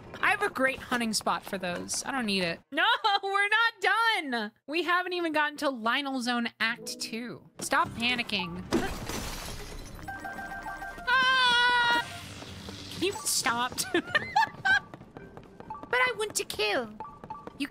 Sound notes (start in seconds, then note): 13.8 laughter